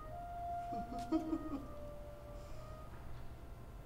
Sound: chuckles

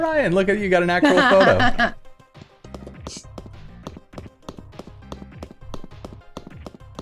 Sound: footsteps

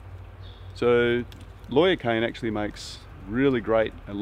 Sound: bird chirps

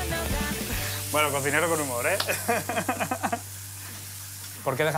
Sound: laughs

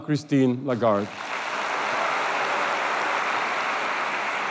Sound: applause

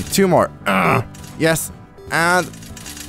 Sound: grunts

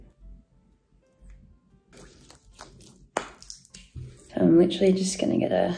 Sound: hands rubbing

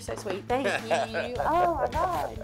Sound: laughs

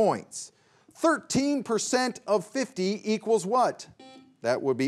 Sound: buzzer beeps once

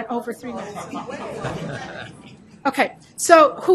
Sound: laughing

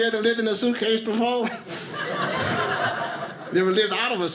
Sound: audience laughing

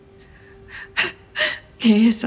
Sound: soft music; crying

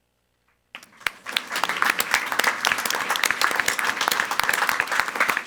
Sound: everyone applauding

